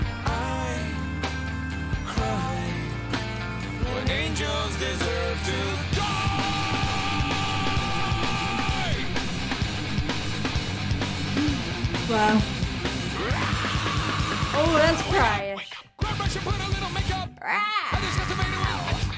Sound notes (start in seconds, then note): 13.1 screaming